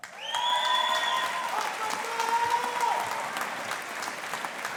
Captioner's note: audience applauding